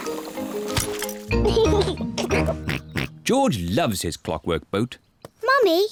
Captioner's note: giggles